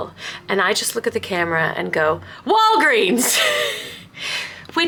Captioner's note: laughing